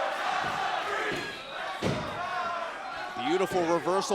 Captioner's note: crowd cheering